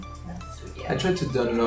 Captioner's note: speaking faintly